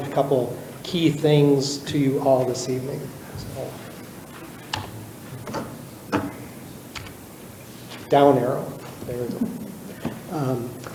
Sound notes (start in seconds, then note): 5.3 keyboard clicking